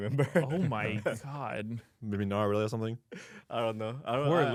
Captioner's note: laughs